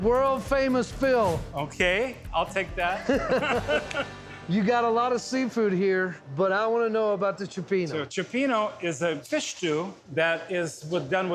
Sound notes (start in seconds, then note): 2.9 laughter